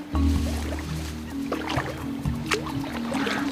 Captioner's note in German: Wasserplätschern